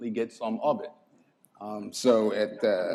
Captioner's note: laughter